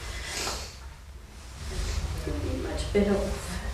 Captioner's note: sniffles